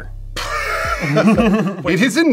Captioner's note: both laugh